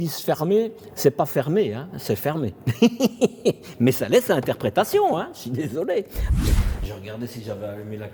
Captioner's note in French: rires